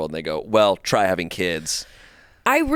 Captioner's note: none